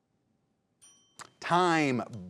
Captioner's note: bell rings